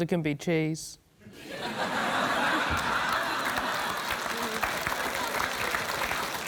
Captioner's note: laughter, applause